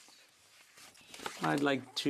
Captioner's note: speaking French